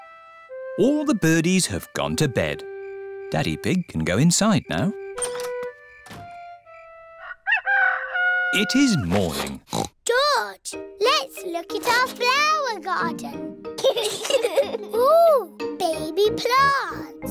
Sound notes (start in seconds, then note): 7.1 rooster crowing; 8.8 oinks; 13.8 both giggling